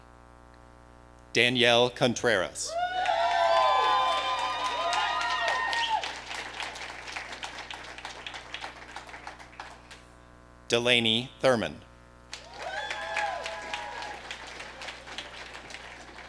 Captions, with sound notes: Danielle Contreras. (audience cheering) Delaney Thurman. (audience applauding)